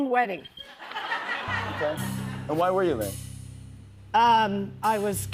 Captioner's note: laughter